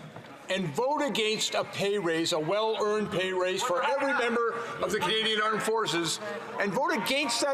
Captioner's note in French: voix de l'interprète